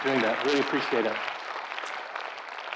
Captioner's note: audience applauding